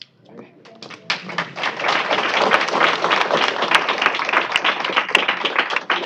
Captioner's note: applause